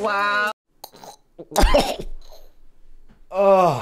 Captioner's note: gags